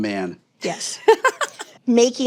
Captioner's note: laughs